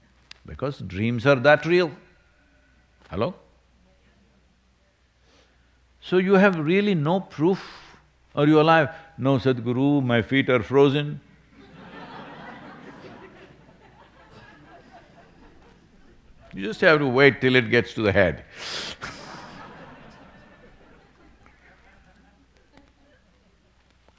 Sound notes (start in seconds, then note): 14.7 laughter; 22.6 laughter